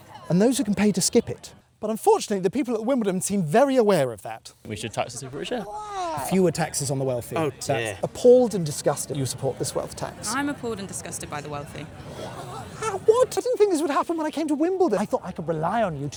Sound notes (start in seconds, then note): 12.2 pathetic noises